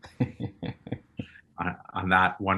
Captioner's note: chuckling